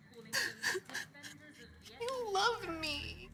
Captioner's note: Molly crying